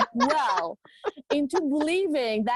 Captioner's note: laughing